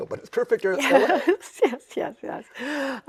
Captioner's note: chuckles